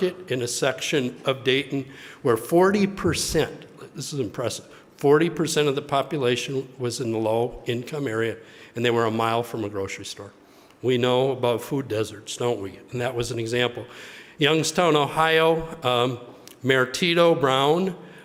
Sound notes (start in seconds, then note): none